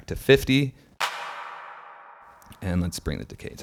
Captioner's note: faster reverberating clap